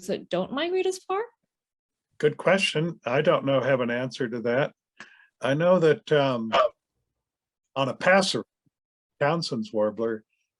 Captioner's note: bark